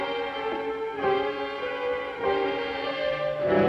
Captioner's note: none